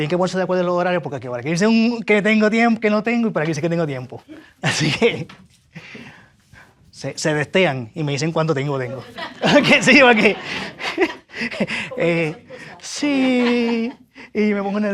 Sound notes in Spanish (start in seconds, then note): 8.9 risas